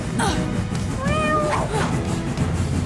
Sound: meowing

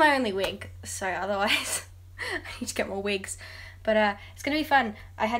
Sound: laughs

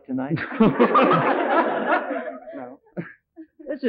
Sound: all laughing

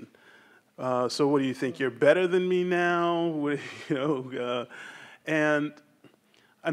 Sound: chuckles

